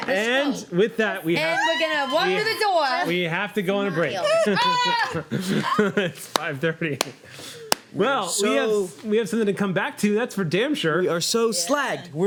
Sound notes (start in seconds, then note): 3.8 shouts; 5.7 laughing